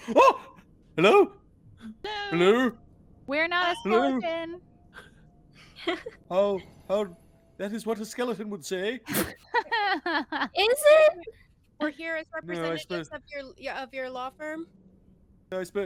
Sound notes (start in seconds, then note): 5.6 Calla laughs; 5.8 Cornette laughs; 9.2 Violette laughs